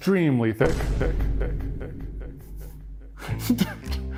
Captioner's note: snickering